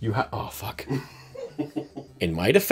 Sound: laughter

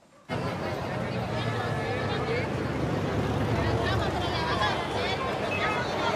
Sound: vehicles passing

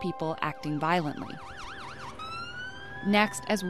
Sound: sirens

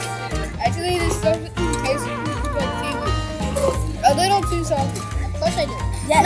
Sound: slurrrrrp

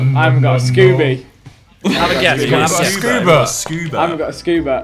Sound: students murmurs

